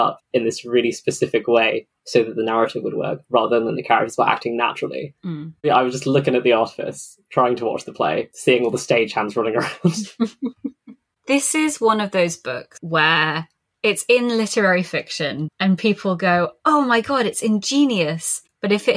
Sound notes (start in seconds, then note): 8.4 laughs